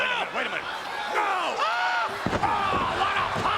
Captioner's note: Jerry yells